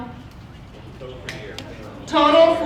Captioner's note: talking off microphone